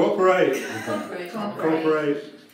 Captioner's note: laughing